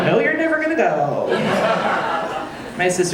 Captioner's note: audience laughing